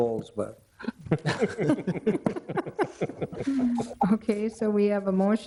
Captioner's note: everyone laughs